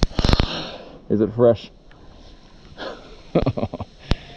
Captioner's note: chuckles